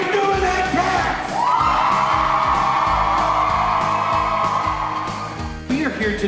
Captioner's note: cheers